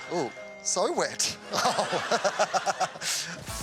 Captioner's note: laughs